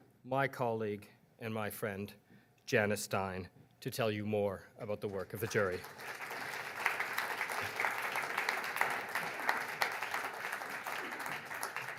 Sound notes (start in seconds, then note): 6.8 audience applauds